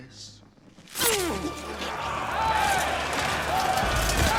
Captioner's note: man grunts and all shouting